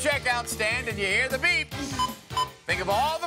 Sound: scanner beeps

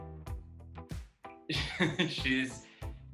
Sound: laughs

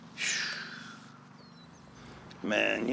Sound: Mitchell sighs

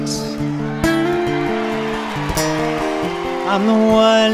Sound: audience cheers

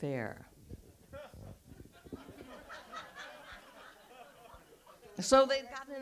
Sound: audience laughs

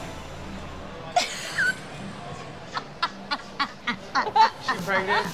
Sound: laughing

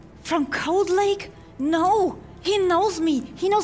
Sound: none

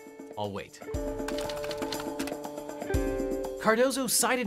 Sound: tense music; typewriter clicks

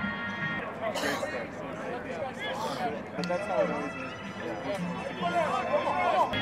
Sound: chatter

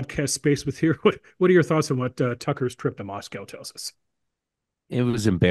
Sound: laugh

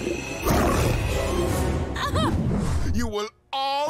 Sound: growling; chuckles

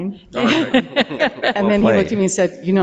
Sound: board members laughing

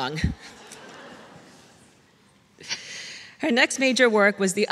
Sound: laughs

